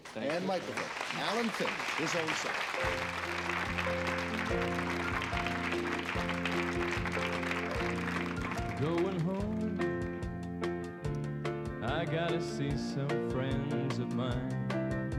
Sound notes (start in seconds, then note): 4.8 applause, music starts